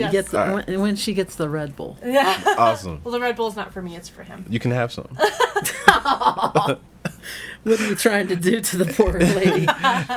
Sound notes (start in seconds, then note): 7.0 laughing